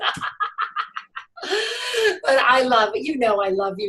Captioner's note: laughs